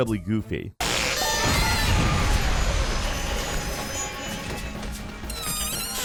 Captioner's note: pony squealing; sparkling noises; pony squealing; pony farting